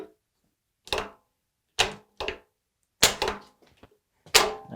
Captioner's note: metal clanging